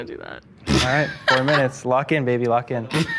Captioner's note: laughs